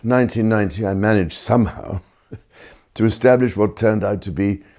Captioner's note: laughs